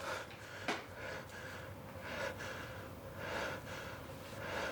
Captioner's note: shallow breathing